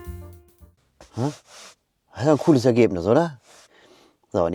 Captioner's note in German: seufzt; schnauben